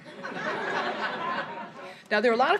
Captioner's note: laughter